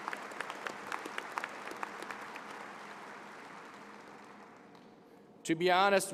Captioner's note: applause